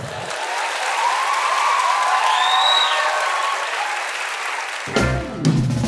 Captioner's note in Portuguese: aplausos